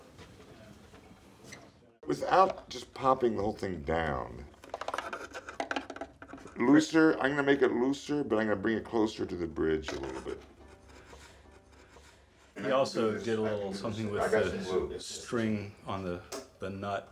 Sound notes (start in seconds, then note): none